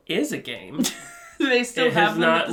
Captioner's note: laughs